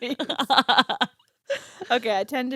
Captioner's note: laughing